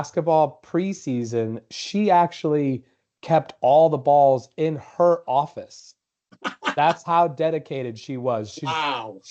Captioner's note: laughter